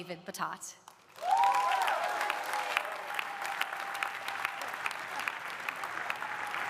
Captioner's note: audience applauding; audience cheering